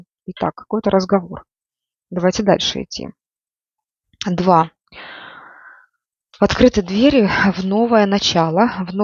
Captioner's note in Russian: вздыхает; тяжело вздыхает